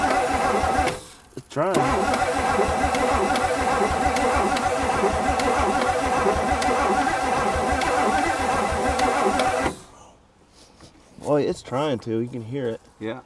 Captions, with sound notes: (vehicle engine stops) It's trying. (vehicle engine humming) (vehicle engine clicking) (vehicle engine stops) Well, it is trying to, you can hear it.